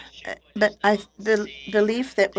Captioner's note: speaking French